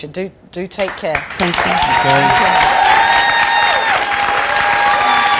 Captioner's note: audience cheers and applauds